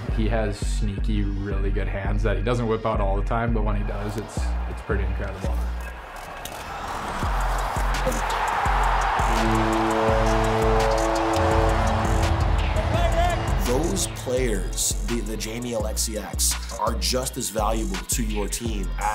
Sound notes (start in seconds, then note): 7.7 fans cheering; 8.0 horn blaring